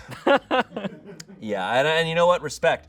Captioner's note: audience laughing